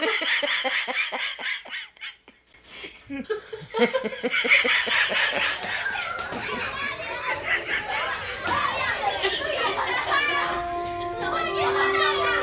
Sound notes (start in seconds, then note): 0.2 laughter continues; 5.6 children clamoring